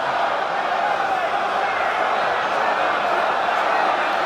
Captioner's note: crowd noises